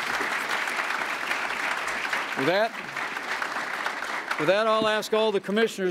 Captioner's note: applause